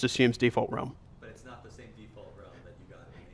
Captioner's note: voiceover